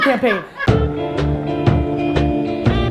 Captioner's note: group laughter